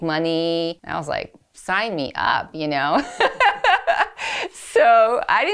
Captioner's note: laughs